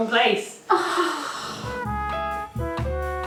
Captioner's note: sighs; relaxing jazz music